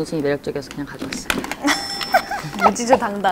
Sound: confident

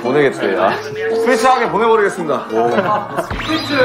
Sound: haha

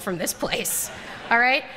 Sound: laughter

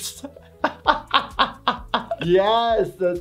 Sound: laughing

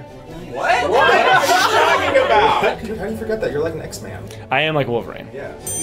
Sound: laughter

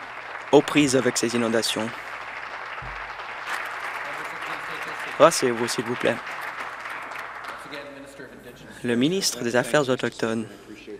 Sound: applause

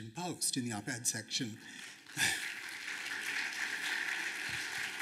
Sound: applause

